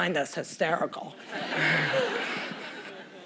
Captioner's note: laughter